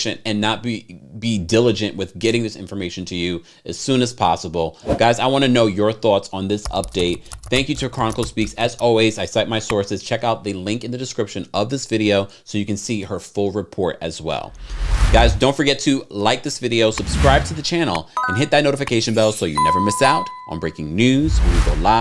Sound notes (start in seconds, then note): 4.8 slide whooshes; 6.6 keyboard typing; 14.4 slide whooshes; 16.9 slide whooshes; 18.2 bell chimes